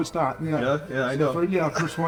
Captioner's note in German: lacht